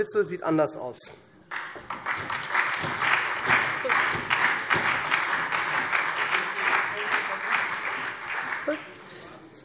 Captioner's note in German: Beifall SPD